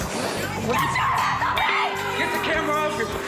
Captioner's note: screaming